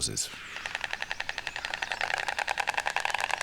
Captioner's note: storks clattering